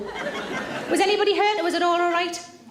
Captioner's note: audience laughs